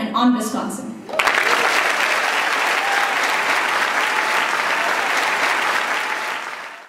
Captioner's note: applause